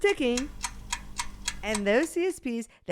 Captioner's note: clock ticking